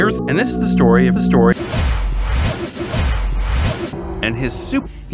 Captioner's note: wooshing noises